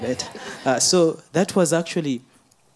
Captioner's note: audience laughing